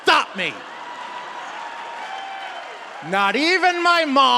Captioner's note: audience cheering